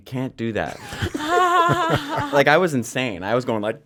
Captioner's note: laughing